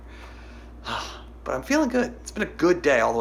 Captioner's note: sighs